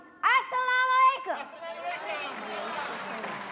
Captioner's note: shouting in a foreign language; audience clapping and cheering